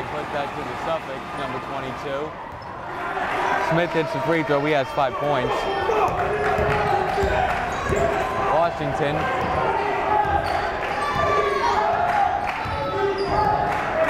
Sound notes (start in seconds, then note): 7.3 yelling; 11.7 yelling